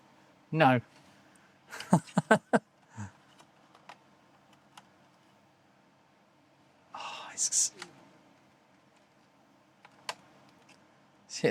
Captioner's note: laughs